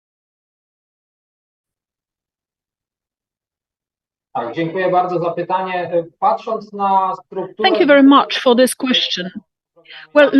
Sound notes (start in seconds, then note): 7.6 speaking foreign language